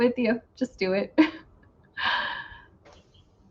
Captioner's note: chuckles